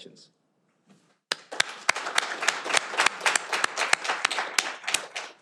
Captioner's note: audience applauding